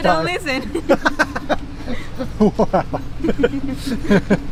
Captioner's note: laughs